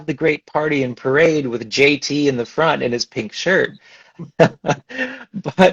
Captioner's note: laughs